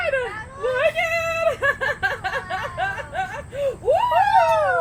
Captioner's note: more random cheering